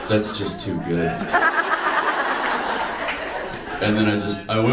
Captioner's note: audience laughs